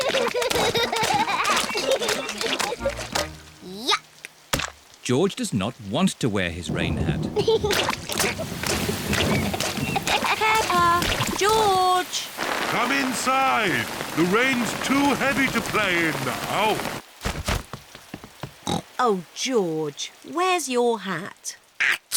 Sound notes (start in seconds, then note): 0.0 both giggling; 6.6 thunder rumbling; 7.5 giggling; 18.6 oinks